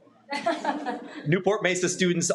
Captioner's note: some members laugh